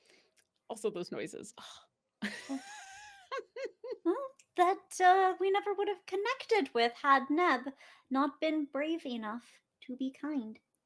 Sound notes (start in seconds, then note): 2.2 laughs